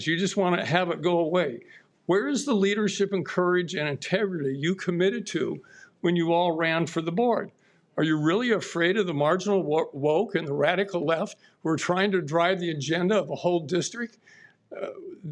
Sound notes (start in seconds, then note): none